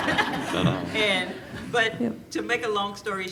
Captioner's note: laughing